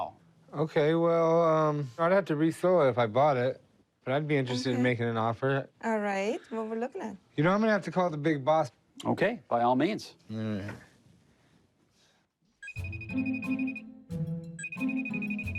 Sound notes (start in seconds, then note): 10.3 Chum grunts; 12.6 phone ringing